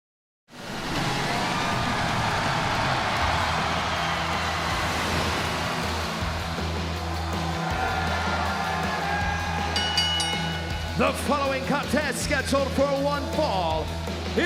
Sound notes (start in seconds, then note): 0.5 water splashing; 0.9 crowd cheering; 5.9 upbeat surf music; 9.7 bell ringing